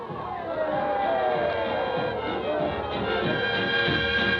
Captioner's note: citizens cheering